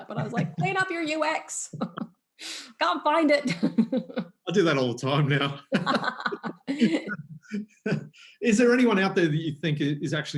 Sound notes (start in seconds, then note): 1.7 laughs loudly; 5.2 laughs